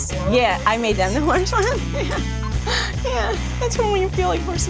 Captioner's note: laughing